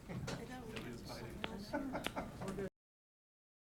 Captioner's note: chattering